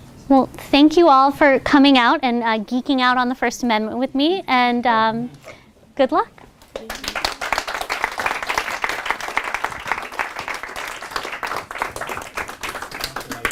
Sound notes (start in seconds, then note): 6.7 applause